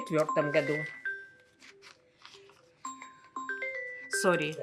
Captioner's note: phone ring